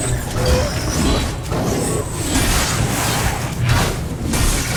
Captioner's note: machinery clanking; machinery whirring; blows thudding